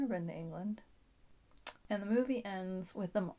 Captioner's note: kiss